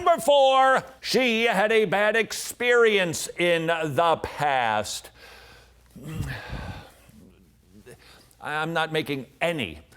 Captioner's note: sigh